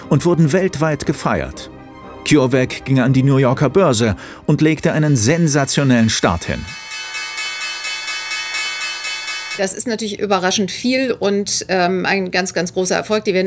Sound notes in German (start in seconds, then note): 6.9 Klingeln